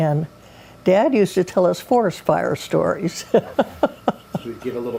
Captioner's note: laughs